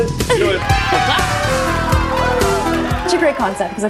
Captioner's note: people cheering